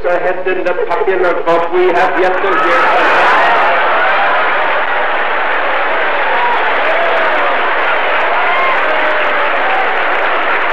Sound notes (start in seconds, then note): 3.0 laughter interrupts; 4.1 applause and cheering